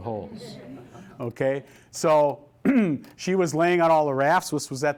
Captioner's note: laughter